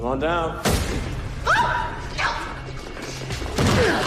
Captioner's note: screams